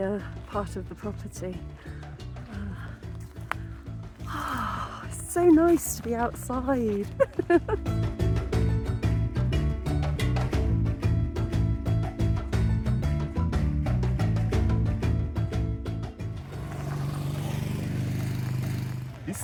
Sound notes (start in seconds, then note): 4.2 sigh; 11.9 laughing